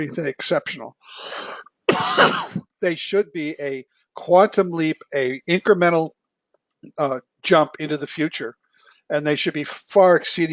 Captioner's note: cough